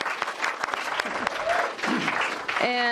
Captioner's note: applause